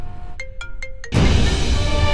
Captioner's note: Phone ringing